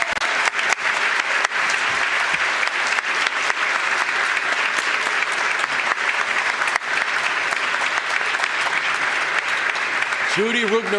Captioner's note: applause